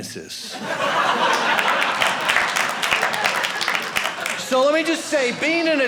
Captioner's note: audience laughing